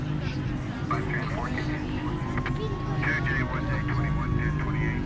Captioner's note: police radio chattering